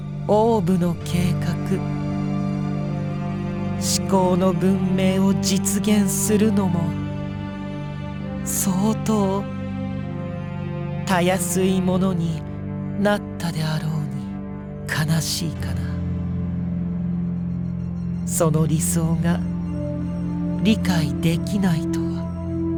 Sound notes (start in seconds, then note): none